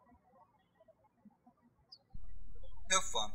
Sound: birds chirping

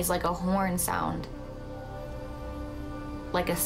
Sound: horn blaring

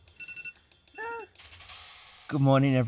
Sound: alarm ringing; cooing

